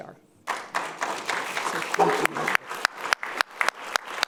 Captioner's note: audience clapping